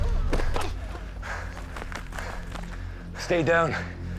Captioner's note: punch; panting